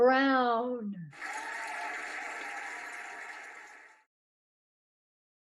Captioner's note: cheering and applauding